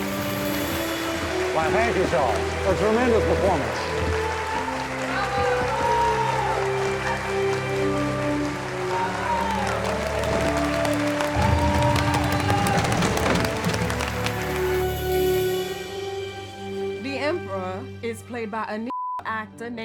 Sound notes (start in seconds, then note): 5.8 cheering; 6.9 audience applauding